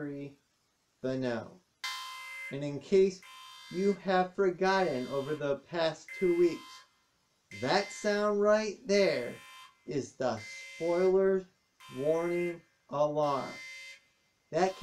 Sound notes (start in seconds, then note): 1.3 alarm sounds